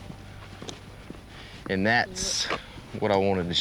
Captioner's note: footsteps